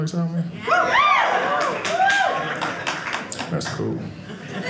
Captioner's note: audience cheering